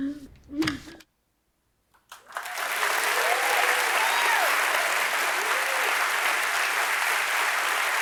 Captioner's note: cheers and applause